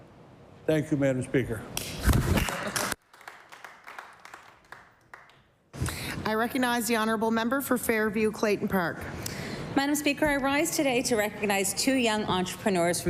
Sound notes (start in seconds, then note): 6.4 applause